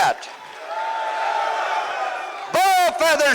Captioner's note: audience Responds